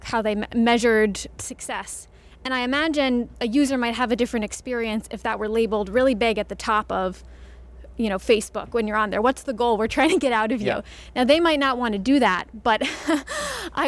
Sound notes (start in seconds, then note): 10.2 chuckles; 12.8 chuckles